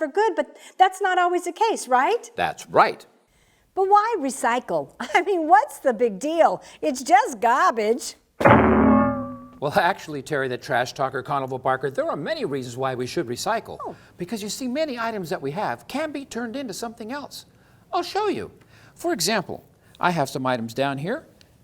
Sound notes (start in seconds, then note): 8.4 CLANG Sound!